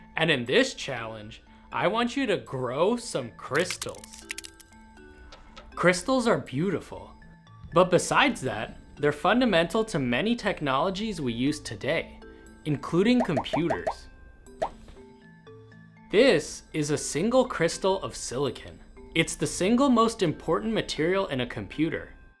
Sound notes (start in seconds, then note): 4.2 crackling; 5.2 crystal sliding; 13.6 multiple pops